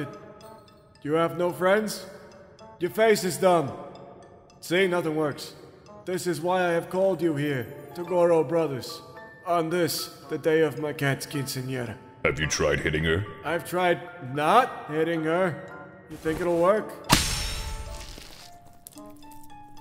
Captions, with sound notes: You have no friends? Your face is dumb. See nothing works. This is why I have called you here to Toguro brothers, on this, the day of my cat's quinceanera. Have you tried hitting her? I've tried NOT hitting her, you think it'll work? (KE-PEW!) (Shiiik-Plip)